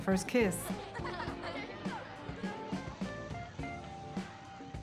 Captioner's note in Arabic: أطفال يضحكون